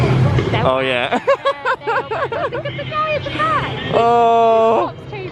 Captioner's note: laughter